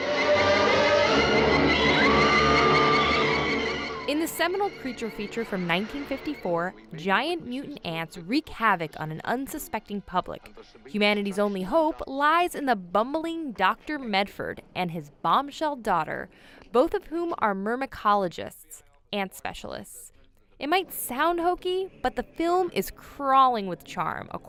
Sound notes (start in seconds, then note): 0.0 creepy music; 2.2 screaming